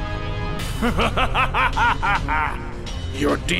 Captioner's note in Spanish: Risas